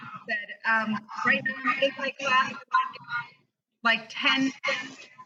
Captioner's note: distortion